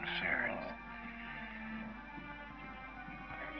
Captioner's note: moaning